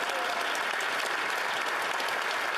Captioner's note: applause